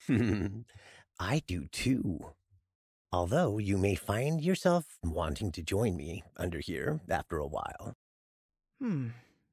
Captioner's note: softly chuckles